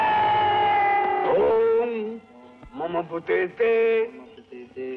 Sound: chanting

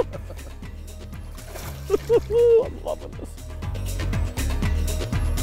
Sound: laughs; water splashing

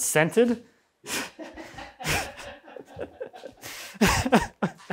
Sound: both laugh

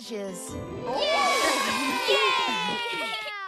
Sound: all Cheering

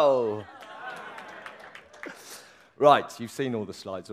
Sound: applause cheers

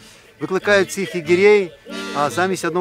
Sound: crowd arguing

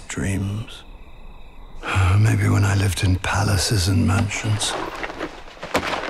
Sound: sighs

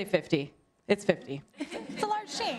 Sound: laughter

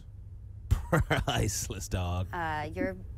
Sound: chuckles

